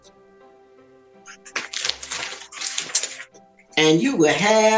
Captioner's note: paper shuffling